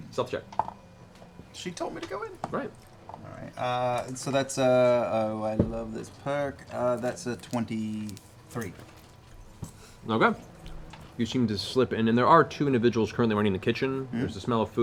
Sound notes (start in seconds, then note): 2.4 quietly